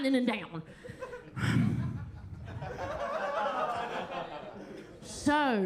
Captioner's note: attendees laughing; Kentucky Lightning sighs; chuckles